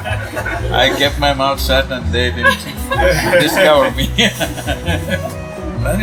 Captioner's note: laughter; laughter